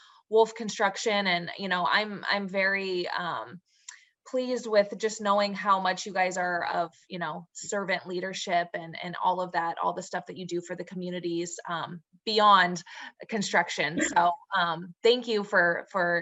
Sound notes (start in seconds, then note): 13.9 laughs